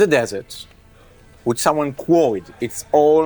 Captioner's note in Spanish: none